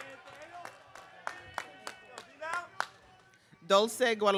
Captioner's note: audience clapping